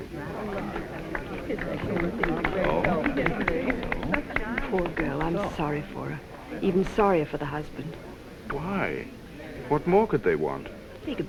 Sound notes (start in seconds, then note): 0.3 crowd clapping